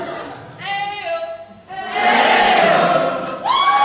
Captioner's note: crowd responds "Eyy-oh!"